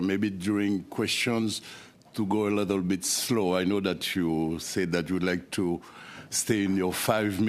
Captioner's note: speaking French